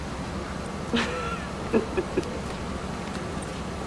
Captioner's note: laughing